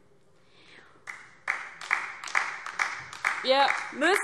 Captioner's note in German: Beifall DIE LINKE